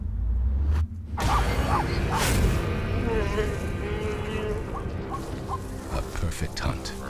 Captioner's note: lion growling; dramatic music; zebra barking